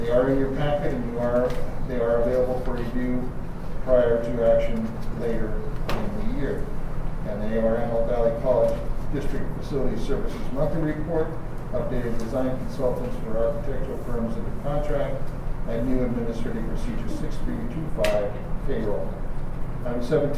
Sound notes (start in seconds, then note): none